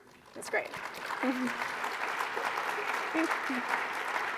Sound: applause

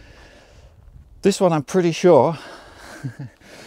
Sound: giggles

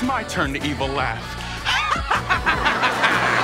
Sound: laughing

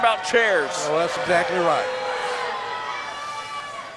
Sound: crowd boos

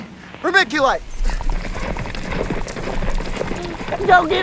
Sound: horse hooves clopping

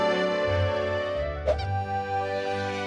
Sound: whack

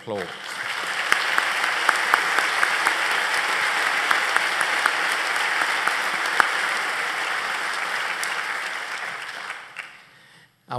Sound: applause

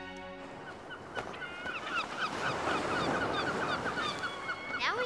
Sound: gulls cawing

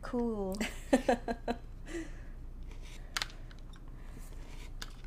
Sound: laughing

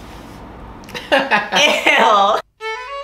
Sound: laughs

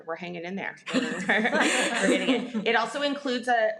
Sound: people laugh

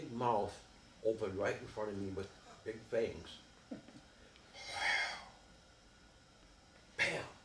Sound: mimics hissing

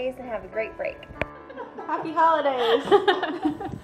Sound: laughter

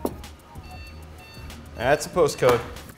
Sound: computer beeping

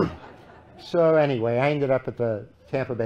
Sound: laughter

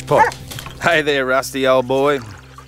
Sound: barks and jumps onto Jim

